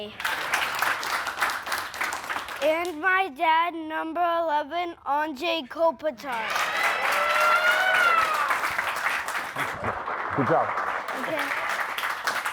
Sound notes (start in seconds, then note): 0.1 players clapping; 6.3 players cheering